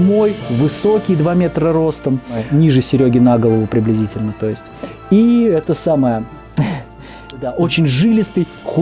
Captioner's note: sarcasm